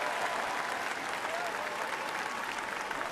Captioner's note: applause